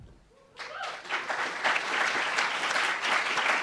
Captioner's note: applauds